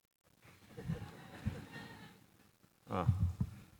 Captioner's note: laughter